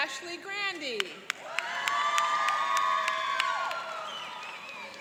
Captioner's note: cheering and applauding